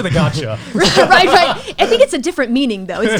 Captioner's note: laughs